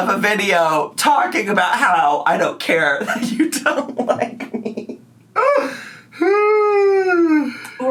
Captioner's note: laughs